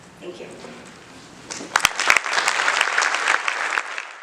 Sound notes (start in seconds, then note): 1.5 audience applauds